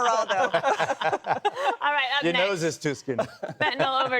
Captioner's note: laughter